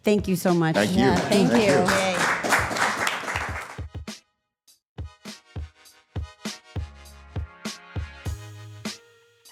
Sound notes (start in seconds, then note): 2.4 all clapping; 4.9 light music